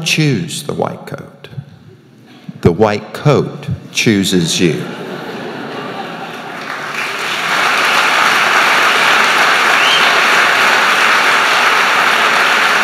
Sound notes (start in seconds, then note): 4.8 laughter and applause